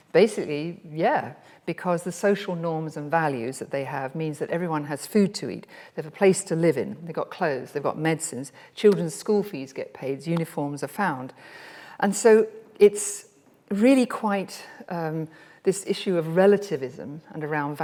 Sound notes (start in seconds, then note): none